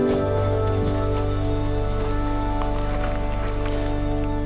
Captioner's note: footsteps